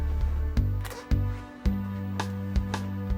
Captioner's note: zipper opens